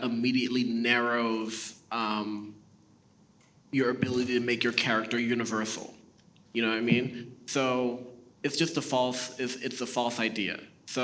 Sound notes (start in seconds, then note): none